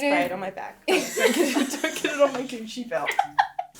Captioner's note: laughing